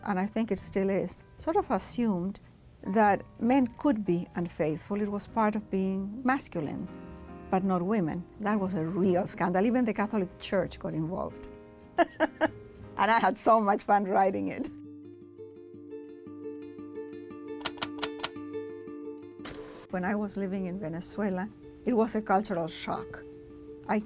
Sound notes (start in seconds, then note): 17.6 typing